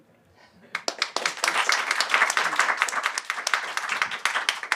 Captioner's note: applause